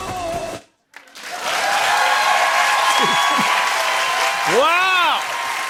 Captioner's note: cheers and applause